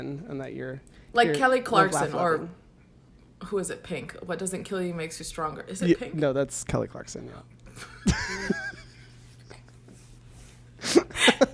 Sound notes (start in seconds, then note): 7.7 both laugh